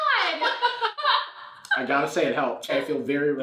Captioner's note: laughs